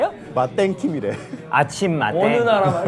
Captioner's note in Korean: 프랑스어